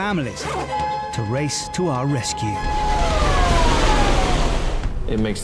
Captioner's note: siren wails